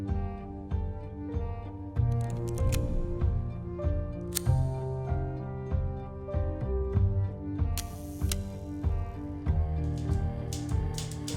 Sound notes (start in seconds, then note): 7.8 camera whirs